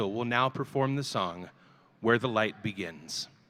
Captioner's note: none